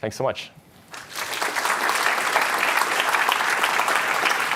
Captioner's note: applause